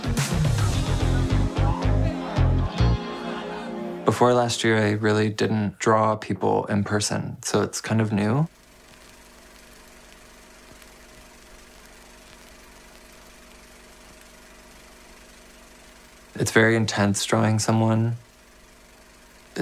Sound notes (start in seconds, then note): 0.0 rhythmic dance music continues; 8.6 film reel clicking